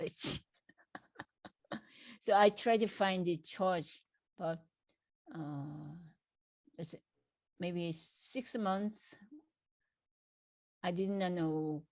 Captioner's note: laughs